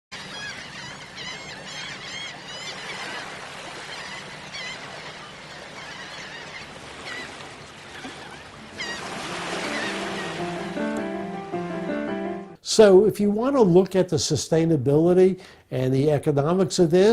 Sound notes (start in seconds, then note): 0.1 seagulls Cawing